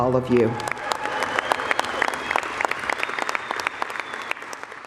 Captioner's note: acclamations et applaudissements bruyants